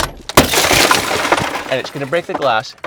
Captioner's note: glass shattering